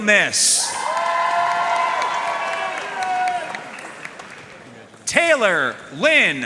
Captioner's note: audience cheering and applauding